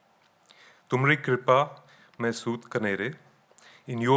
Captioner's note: speaking in foreign language